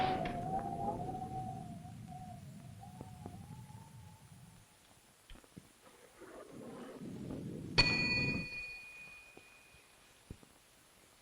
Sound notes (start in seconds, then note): 7.8 bell dings